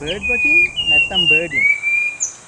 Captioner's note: sri Lanka Spot wing thrush calls